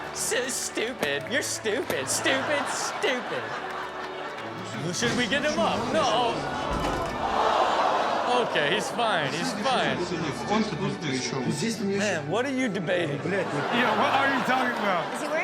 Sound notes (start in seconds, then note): 3.6 audience laughs; 6.4 audience gasps; 10.1 intercom speaks in foreign language